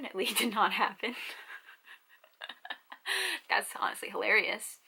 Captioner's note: laughs